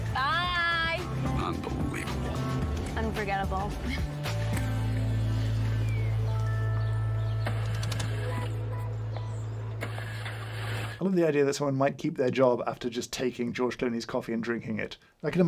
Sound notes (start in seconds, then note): 4.7 driver laughs; 7.9 engine sputters